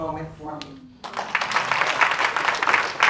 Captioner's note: applause